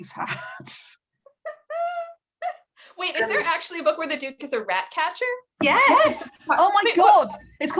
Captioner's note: laughs